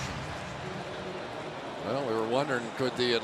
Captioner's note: pa announcement